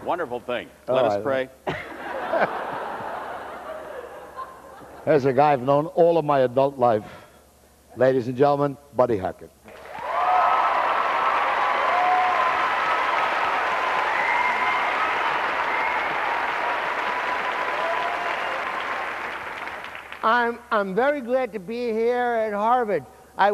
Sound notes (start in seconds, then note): 1.6 laughter; 10.6 cheers